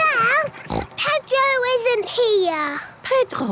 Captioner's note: snort